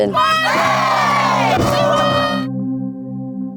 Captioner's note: team cheers